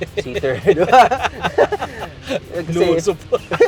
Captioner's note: both laughing